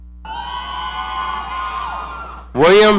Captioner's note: audience cheering